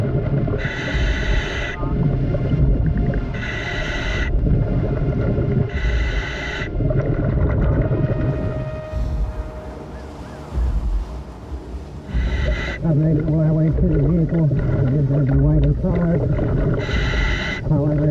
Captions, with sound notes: (birds chirping) (suspenseful music continues) I've made my way to the vehicle, it is white in color.